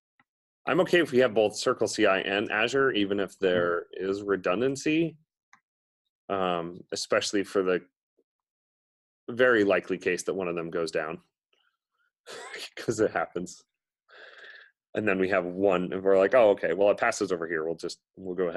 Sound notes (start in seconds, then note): 12.3 laughs